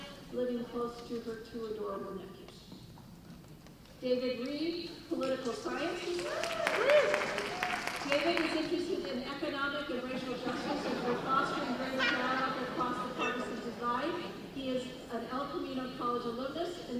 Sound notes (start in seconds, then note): 6.1 cheers and applause; 10.0 laughing